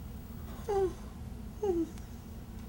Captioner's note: Pruitt whimpers